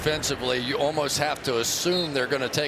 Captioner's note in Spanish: hablan en inglés